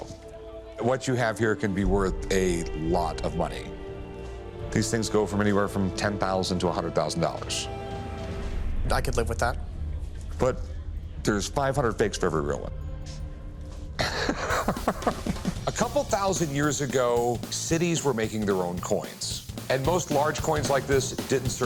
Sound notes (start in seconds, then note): 7.1 majestic music; 14.0 laughs